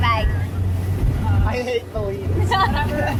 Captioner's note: sarcastically